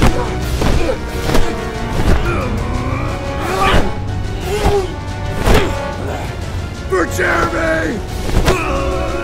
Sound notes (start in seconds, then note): 0.1 dramatic music continues; 1.1 pillows thudding; 2.1 Benson grunting; 3.8 pillows thudding; 8.2 pillow thudding; 8.5 Benson grunting